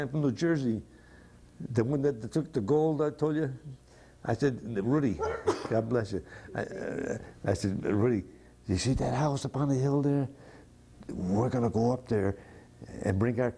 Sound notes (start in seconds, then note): 5.2 sneeze